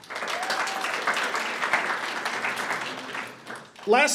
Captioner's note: audience cheers and applauds